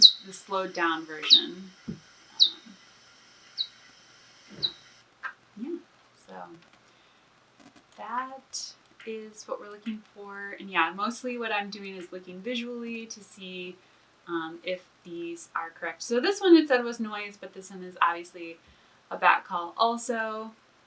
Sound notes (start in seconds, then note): 0.0 slowed down bat echolocation noise playing